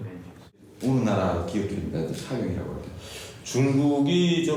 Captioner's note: translator speaking Korean; speaking Korean